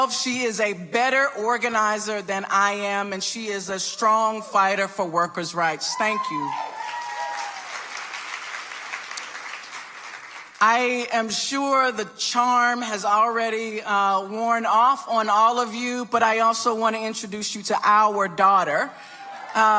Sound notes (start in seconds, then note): 6.4 audience applauding